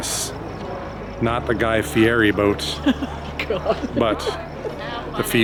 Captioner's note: laughs